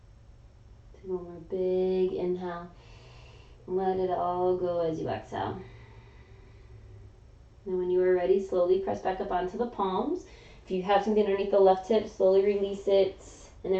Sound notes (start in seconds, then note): 2.8 inhaling; 5.6 exhaling